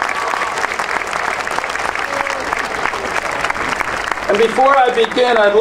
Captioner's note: audience cheering and applauding